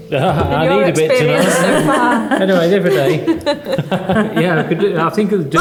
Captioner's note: laughing